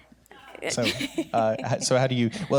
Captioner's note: chuckle